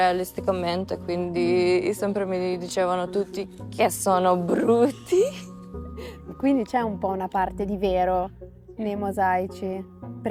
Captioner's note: laughs